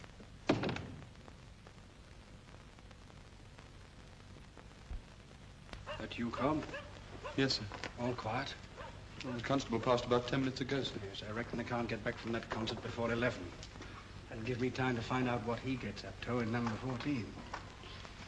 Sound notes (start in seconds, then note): 0.4 door closes; 6.2 dog barks